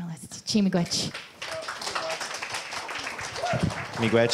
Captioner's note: audience applause